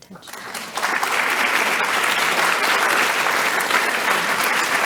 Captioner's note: audience clapping